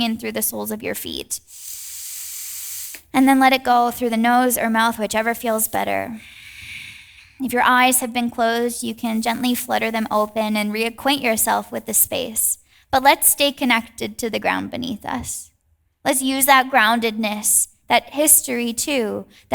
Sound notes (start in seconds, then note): 1.4 inhales deeply; 6.1 exhales deeply